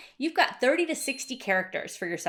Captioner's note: bell dinging